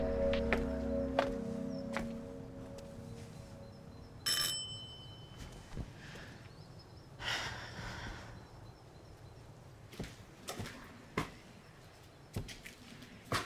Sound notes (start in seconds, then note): 0.0 footsteps tapping; 4.4 doorbell rings; 7.4 Claire sighs